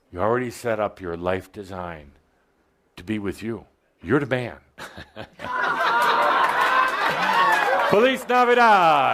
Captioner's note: laughter